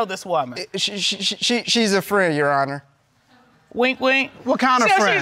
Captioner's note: stammers